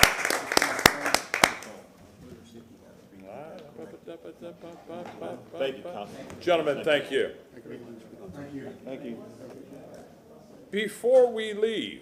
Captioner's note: applause